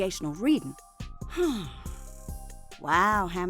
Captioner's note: Sharkita sighs